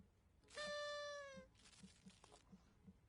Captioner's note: party horn blowing